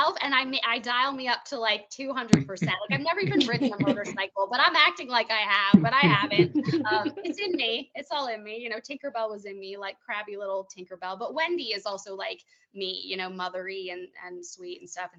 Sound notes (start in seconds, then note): 5.7 laughing